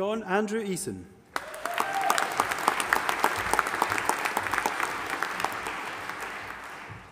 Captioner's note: audience applauding and cheering